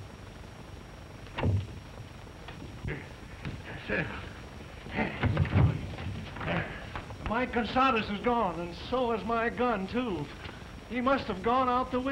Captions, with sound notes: [panting] Mike Gonzado is gone. And so is my gun too. he must have gone out the window.